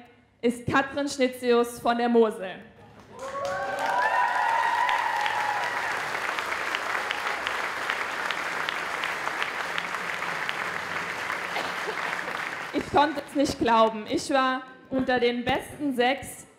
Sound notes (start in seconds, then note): 2.9 applause